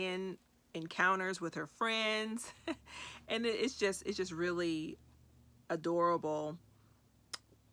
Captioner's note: chuckles